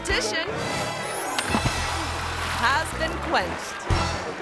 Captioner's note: water splashes